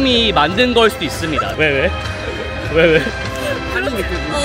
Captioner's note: two people laughing too hard next to me